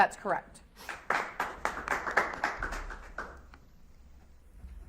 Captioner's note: audience applauds